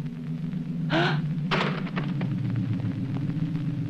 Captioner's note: gasping